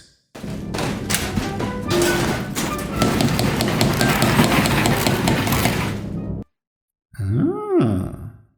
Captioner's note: kitchen noises